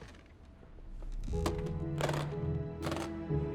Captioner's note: case clicking shut